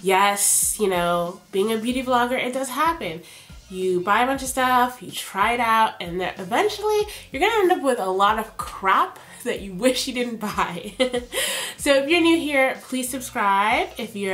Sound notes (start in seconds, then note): 11.5 laughs